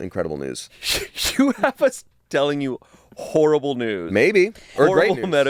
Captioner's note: laughs